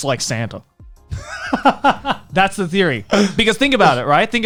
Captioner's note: chuckles